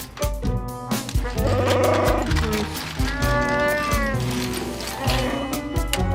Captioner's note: Chewbacca sounds